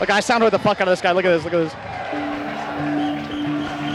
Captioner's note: crowd cheering; pensive music playing